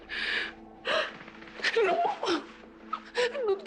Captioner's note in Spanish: Sollozos